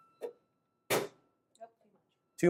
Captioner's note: bang